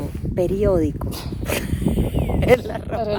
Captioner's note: laughs